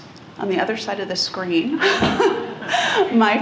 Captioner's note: laughs